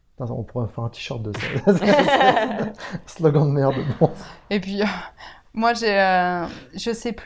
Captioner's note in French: rire